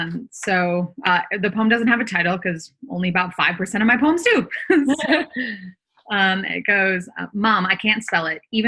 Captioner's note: laughs